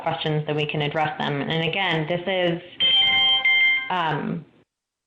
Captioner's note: ringing